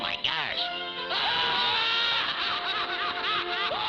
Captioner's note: laughing